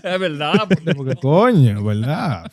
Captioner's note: non-english Speech